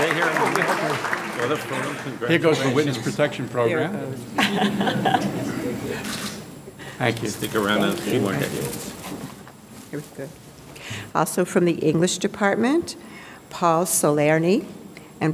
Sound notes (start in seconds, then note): 4.3 audience laughing